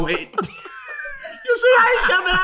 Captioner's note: laughing